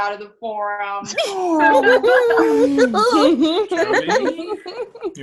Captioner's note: ALL laugh